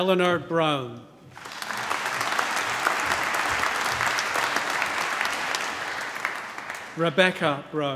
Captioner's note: applause